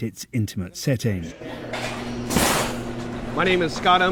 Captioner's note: utensils clanking